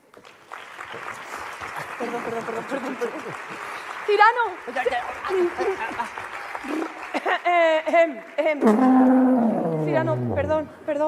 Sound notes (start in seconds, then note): 5.8 applause